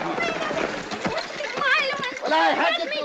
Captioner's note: sobbing